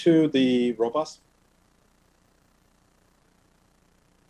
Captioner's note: silence